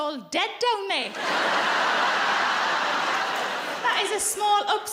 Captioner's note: audience laughs